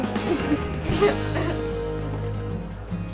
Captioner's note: CHUCKLlNG